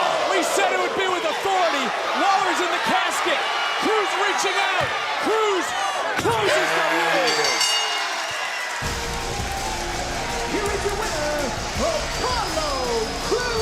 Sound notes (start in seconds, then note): 7.1 bell rings